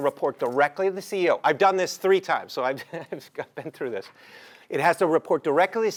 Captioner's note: laugh